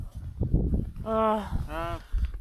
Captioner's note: frustrated sigh